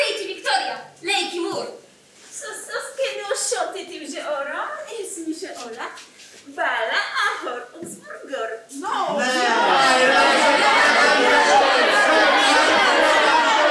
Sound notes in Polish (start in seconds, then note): 3.3 Po irlandzku